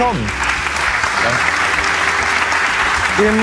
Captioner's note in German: Applaus